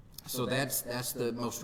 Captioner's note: none